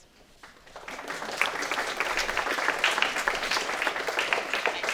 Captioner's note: audience applauding